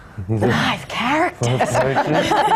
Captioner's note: laughter